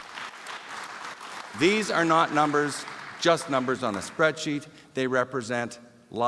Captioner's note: applause